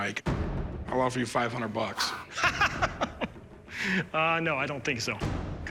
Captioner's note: laughs